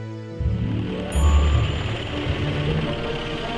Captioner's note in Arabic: محرك يدور